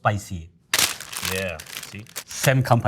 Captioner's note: packaging crinkling